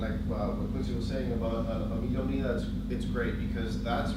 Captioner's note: speaks in foreign language